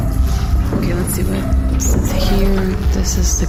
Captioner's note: ominous humming, intermittent zapping